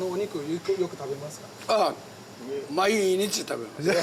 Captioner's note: speaks Japanese; speaking Japanese